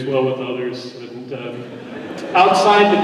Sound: laughter

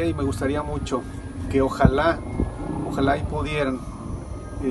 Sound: speaking Spanish

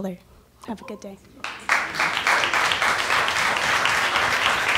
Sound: applause

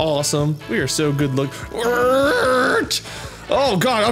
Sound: grunting

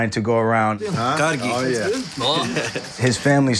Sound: speaking foreign language

